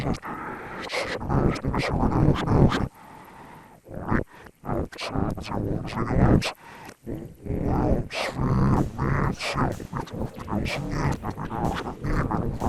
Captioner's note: speaking in foreign language